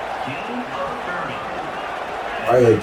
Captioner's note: crowd Noises